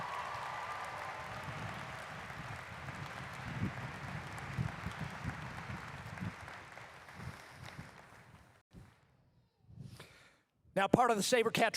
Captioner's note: cheers and applause